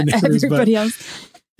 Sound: laughs

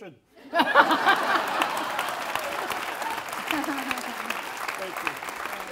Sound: laughter & Applause

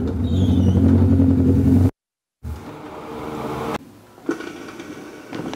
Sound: motorcycle engine shuts off

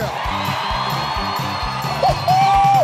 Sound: audience cheering

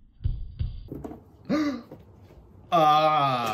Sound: gasp

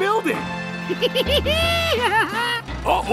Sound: laughing

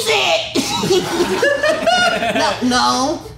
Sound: laughter

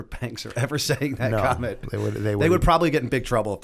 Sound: chuckle

